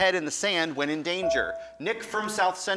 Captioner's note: buzzer dings